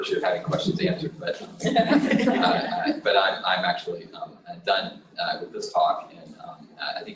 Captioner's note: laughter